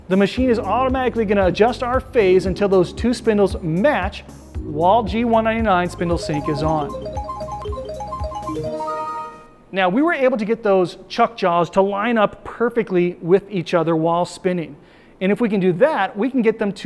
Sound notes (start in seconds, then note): 6.1 flashback sound